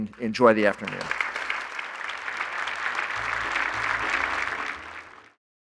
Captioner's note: applause